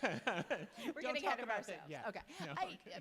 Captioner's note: laugh